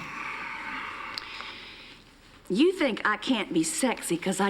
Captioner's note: clears throat